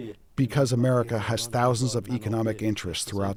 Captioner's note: through translator